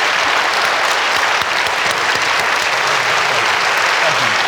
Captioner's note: audience clapping loudly